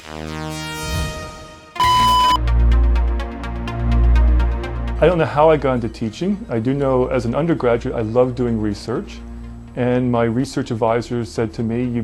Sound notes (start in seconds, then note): 1.7 beep